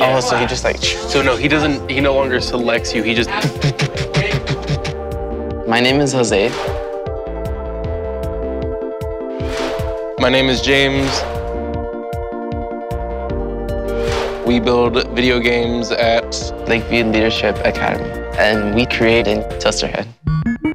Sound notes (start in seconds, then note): 3.4 imitating banging; 8.2 upbeat energetic music